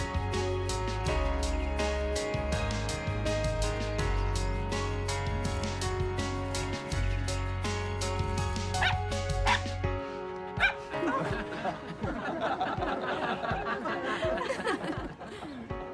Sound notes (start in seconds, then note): 8.0 willis yaps; 10.6 barking; 12.5 laughter